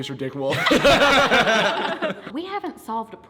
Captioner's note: group laughs